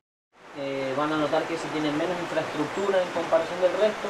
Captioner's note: in Spanish